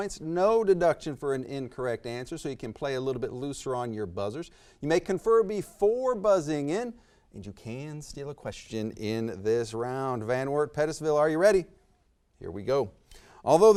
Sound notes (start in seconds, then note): none